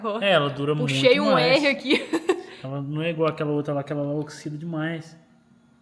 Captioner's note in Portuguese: risadas